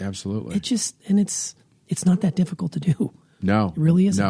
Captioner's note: scoffs